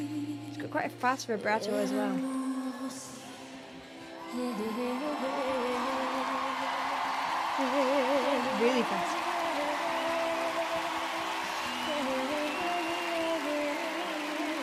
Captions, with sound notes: Quite a fast vibrato as well. (woman humming vocally and audience cheering) (vocal humming) Really fast. (audience cheering and woman humming vocally)